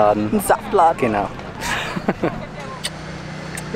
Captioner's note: laughter